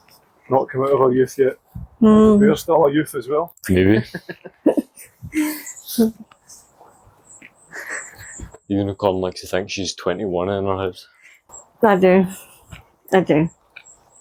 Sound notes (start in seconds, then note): 3.8 laughter